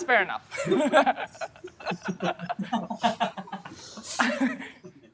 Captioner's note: laughter